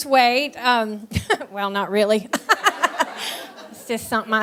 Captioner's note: laughs